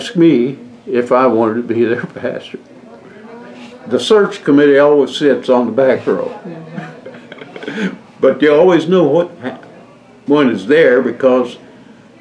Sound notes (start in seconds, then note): 3.4 laughs